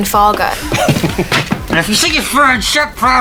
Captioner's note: Bong laughs